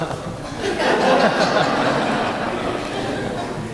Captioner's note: laughter